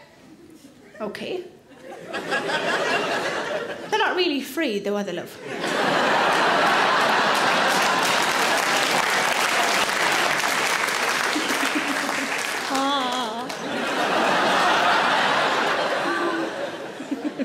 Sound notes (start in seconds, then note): 1.8 audience chuckles; 6.6 audience laughs and claps; 11.3 Sarah chuckles; 13.8 audience laughs; 15.8 Sarah laughs